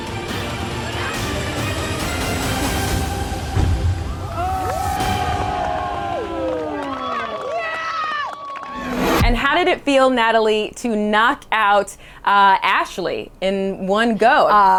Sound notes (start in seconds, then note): 0.1 tense music continues; 4.2 crowd applauses